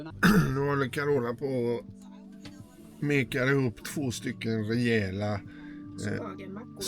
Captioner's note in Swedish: harklar sig